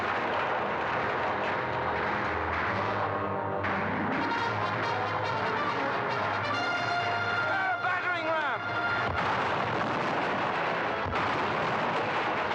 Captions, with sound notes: (gunfire) - Prepare a battering ram! (cannons firing) (wall crashing in) (cannons firing)